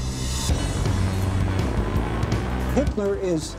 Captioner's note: motors roaring